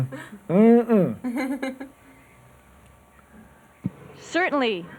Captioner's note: laughter